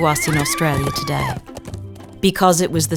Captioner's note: horse whinnies, woman screams